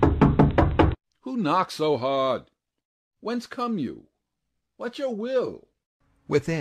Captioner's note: knocking